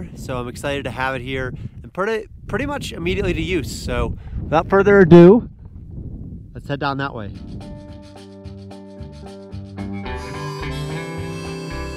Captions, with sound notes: so I'm excited to have it here and put it pretty much immediately to use. So without further ado, let's head down that way. (wind howling) (upbeat instrumental music)